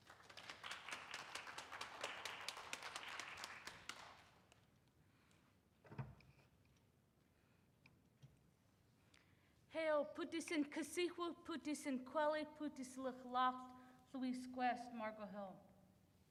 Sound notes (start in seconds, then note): 0.0 audience clapping; 9.6 speaks in foreign language